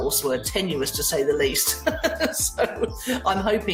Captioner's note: laughs